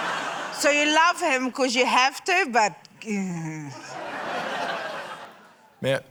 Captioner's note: laughter; laughter